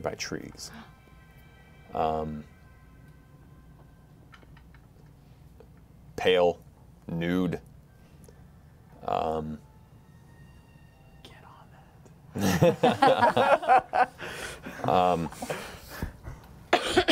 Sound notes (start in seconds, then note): 8.8 whispering; 12.3 laughter